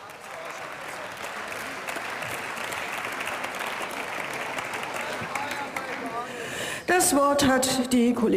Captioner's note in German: Zwischenrufe und Beifall